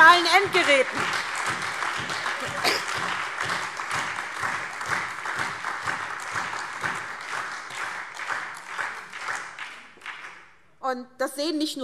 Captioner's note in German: Beifall SPD, AfD, Freie Demokraten und DIE LINKE